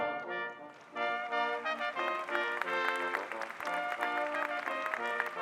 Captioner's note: audience applauding